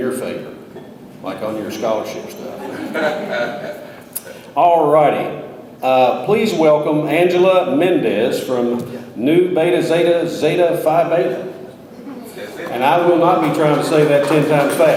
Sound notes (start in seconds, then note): 2.6 audience laughs